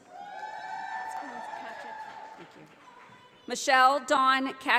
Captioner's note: audience applauding